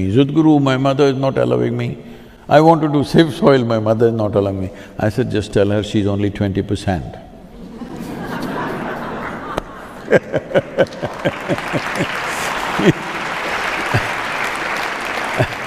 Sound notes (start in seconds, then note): 7.5 laughter; 10.5 applause